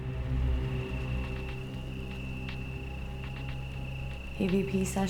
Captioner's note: ominous music; crickets chirping